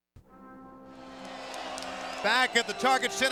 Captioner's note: crowd cheering